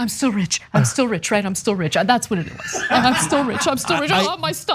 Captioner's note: laugh